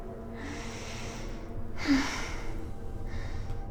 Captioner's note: moaning